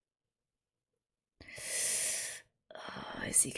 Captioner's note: sharp intake of breath